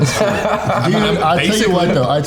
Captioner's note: all laughing